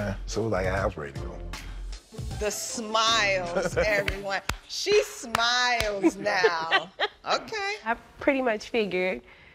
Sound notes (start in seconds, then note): 3.4 chuckles; 5.2 claps; 6.0 both laughing